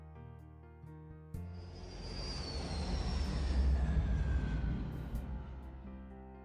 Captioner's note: light Music; airplane Noises